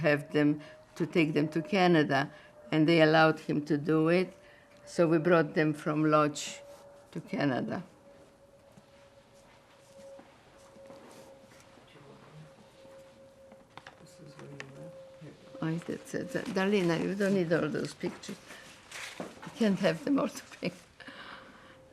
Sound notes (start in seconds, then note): 13.4 mumbling